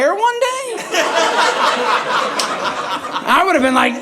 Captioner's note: audience laughing